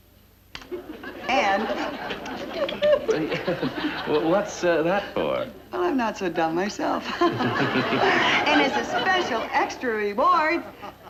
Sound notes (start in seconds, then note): 7.0 laughing